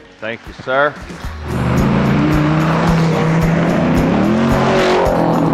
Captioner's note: engine revving